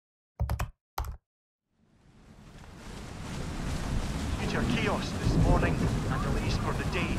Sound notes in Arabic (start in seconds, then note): 0.4 صوت كتابة على لوحة المفاتيح; 2.0 صوت أمطار غزيرة